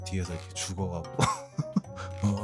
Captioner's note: laughter